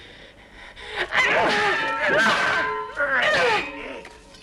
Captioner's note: Hundra panting; swords clanging